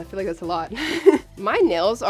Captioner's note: laughing